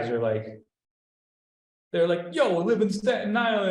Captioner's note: heavy new york accent